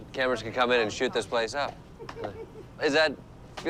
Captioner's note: laughs